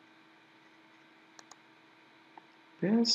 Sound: mouse clicking

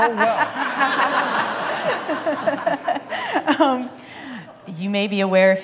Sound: laughter

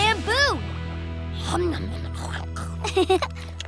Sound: munching; giggling

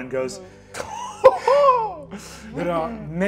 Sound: laughs

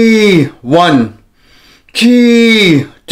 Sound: inhales

